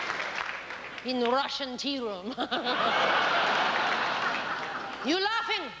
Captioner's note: laughs